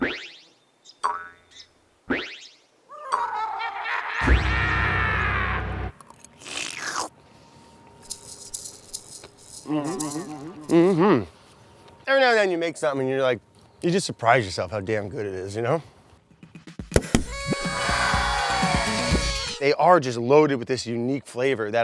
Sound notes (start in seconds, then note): 0.0 boinging; 1.0 boinging continues; 3.0 evil laughter; 6.0 slurping; 17.3 people cheer